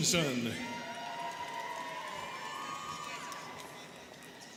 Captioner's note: students cheering